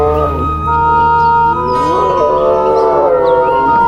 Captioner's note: growling